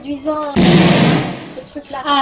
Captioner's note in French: boum